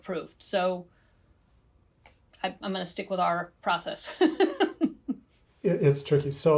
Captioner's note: chuckles